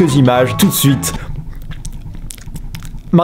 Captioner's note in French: clapotement linguale ou bruit dégueulasse émis par